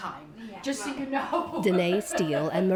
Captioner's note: laughter